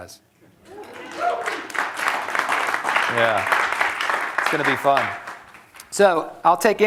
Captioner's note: applause